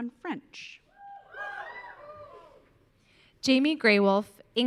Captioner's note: audience cheering